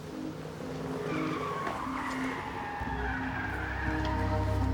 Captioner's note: tires screeching